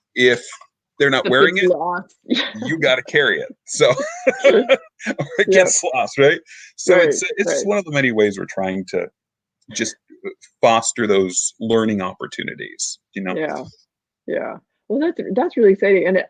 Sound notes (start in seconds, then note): 2.4 laughs